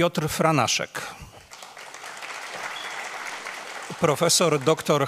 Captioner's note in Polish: oklaski